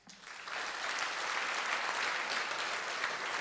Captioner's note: applause